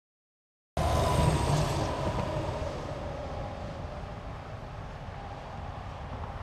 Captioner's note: traffic sound effects